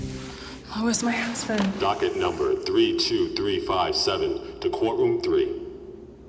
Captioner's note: loudspeaker